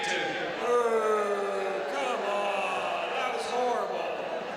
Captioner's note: jeers from crowd